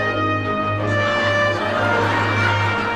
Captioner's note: audience laughing